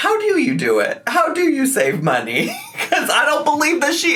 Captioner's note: laughs